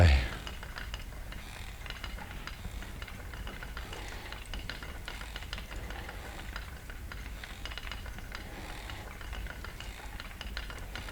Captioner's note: breathing